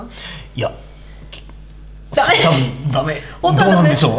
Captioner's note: laughs